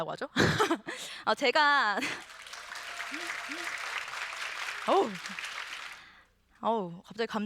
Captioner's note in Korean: 박수